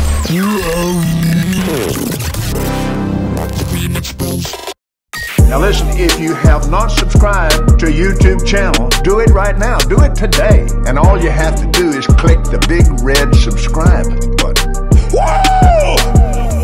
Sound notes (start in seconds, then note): 0.0 glitching sound; 2.4 whoosh